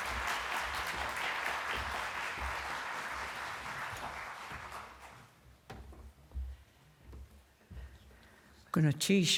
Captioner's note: applause